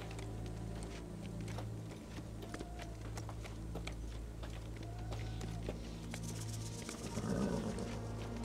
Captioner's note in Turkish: At nalı sesleri; Rüzgâr sesi